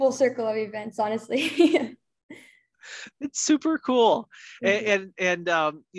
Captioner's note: both laugh